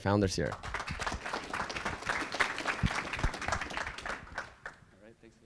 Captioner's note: audience applauding